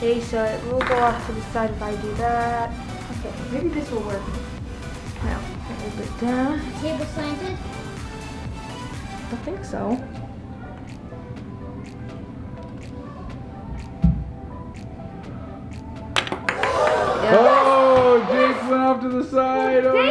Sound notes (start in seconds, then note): 16.1 ball clacks; 16.6 disappointed crowd